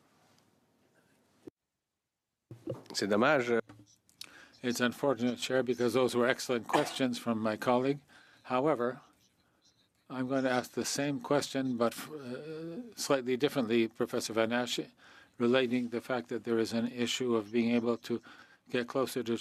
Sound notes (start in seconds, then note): 10.7 speaking French